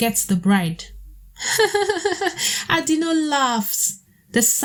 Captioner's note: lauhgs